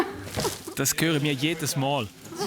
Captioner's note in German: Lachend